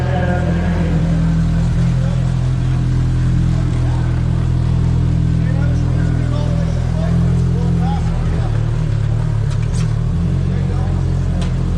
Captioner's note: engine revving